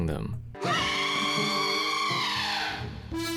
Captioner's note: redead scream